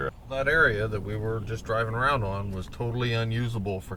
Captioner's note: voiceover